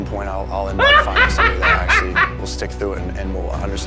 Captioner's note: laughs